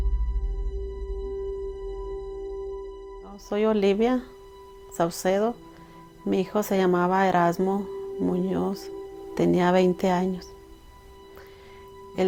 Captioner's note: speaking spanish